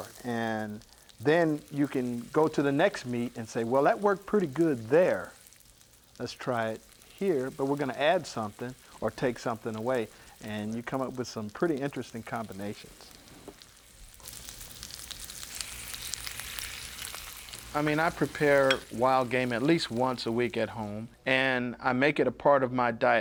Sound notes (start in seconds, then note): 14.7 food sizzling